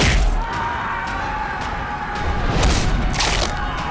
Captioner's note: army yelling